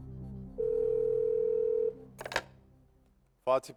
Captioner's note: ringing